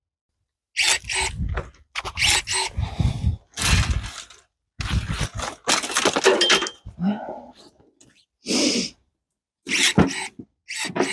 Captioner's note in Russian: Звук секатора